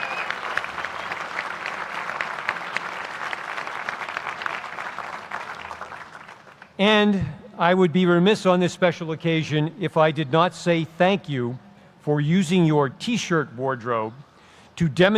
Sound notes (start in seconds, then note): 3.0 applause